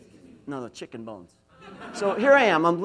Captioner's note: laughs